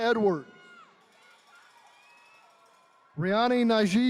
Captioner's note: attendees cheering